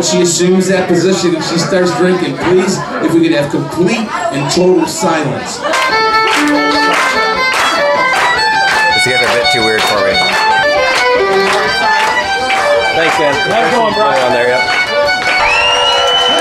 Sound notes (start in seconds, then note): 6.3 solo violin playing; 12.3 audience clapping